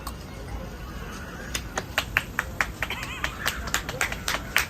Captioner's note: applause